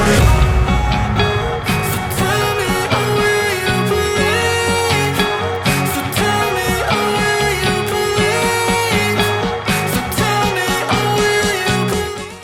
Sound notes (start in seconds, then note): 0.8 तालियां